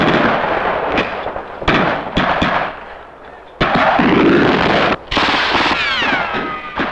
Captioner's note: explosions booming; guns blasting